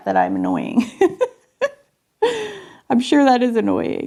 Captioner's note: chuckling